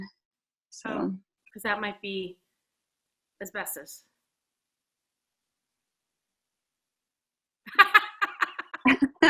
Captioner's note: laughs